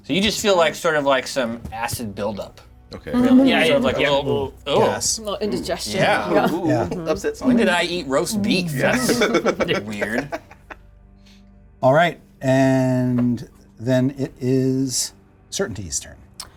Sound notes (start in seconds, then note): 8.7 Xavier laughing